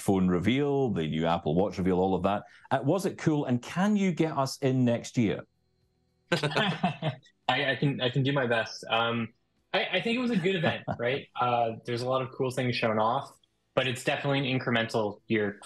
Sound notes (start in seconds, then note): 6.3 laughing; 10.0 chuckling